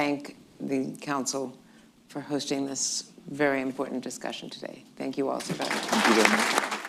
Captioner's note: applause